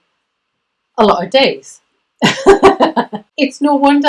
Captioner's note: laughs